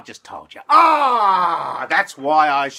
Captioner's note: pained cry